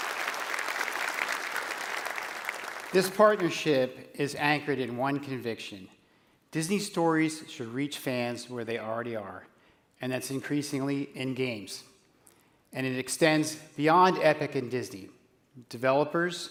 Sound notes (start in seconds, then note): 0.0 applause